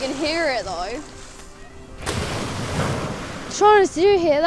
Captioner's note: splash